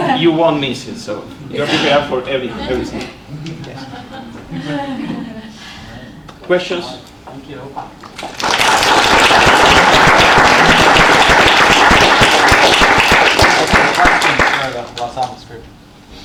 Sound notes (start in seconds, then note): 8.1 audience applauds